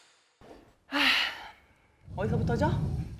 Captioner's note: sighing